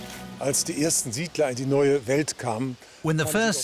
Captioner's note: speaking German